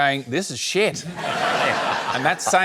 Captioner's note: laughter